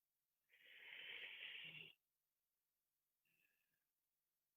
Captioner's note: audible breath out